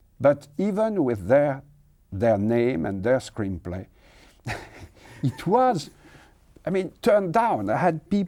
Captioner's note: laughs